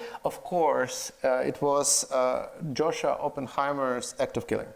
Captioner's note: none